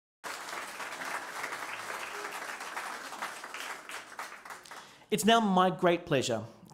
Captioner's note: applause